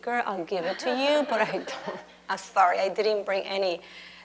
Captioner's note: laughs